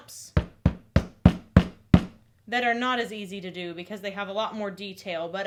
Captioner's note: thudding